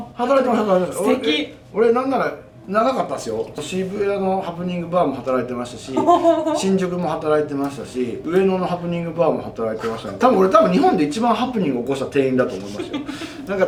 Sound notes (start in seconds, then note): 5.9 laughs